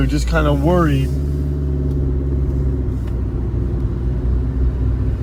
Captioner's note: zumbido del motor del coche